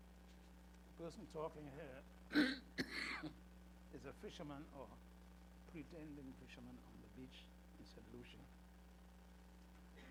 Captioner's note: coughs